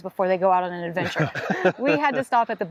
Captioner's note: laughing